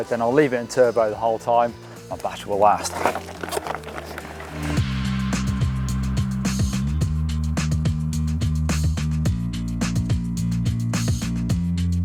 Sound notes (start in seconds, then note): 3.6 gravel crunching; 5.3 upbeat music